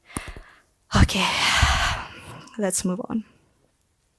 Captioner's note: sighs